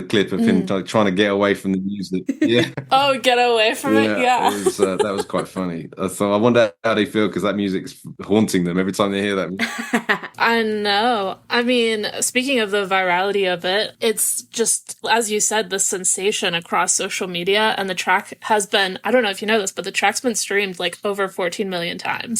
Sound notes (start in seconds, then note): 9.6 laughs